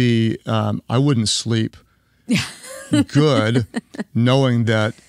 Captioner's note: laughs